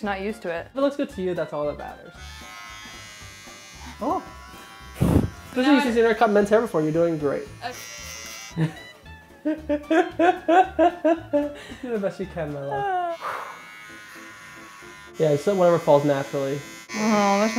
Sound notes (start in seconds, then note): 9.4 laughing